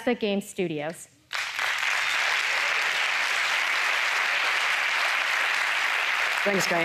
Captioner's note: applause